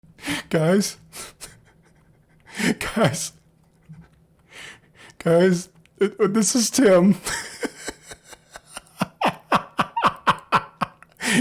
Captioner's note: laugh